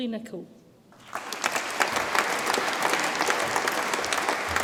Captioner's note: audience applauds